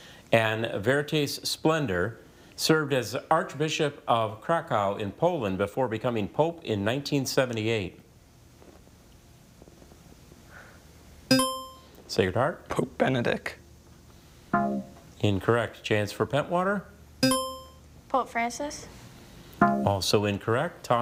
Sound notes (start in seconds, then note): 11.3 buzzer chimes; 14.5 tone clunks; 17.2 buzzer chimes